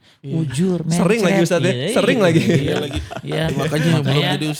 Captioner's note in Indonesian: tertawa